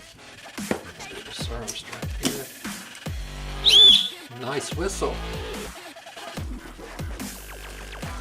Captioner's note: blowing Whistle